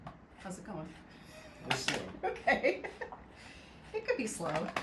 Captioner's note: laughs